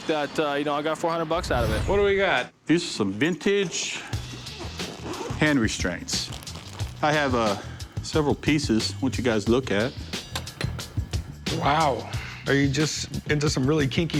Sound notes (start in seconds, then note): 4.6 unzipping